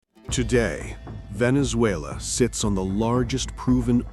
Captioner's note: voz profunda, controlada